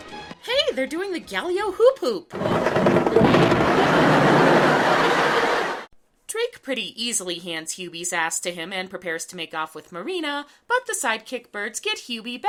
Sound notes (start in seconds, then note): 2.4 explosion sound; 3.3 canned laughter